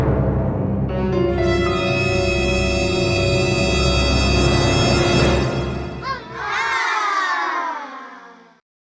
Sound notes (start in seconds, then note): 0.0 suspenseful music; 6.0 children sadly exclaiming